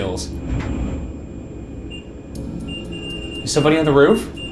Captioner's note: REM-Pod beeping